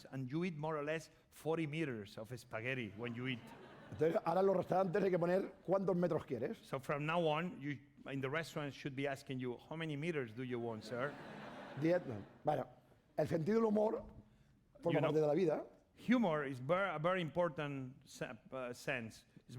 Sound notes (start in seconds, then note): 5.5 speaking spanish; 12.3 speaking spanish